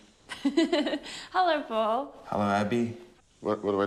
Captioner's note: chuckles